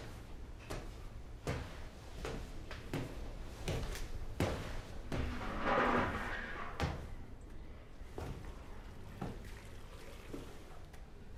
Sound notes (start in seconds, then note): 5.1 metal clattering; 8.9 water splashing